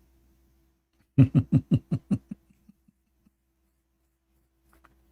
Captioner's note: Ketawa